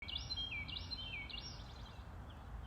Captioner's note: birds chirping